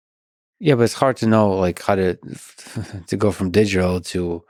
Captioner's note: chuckles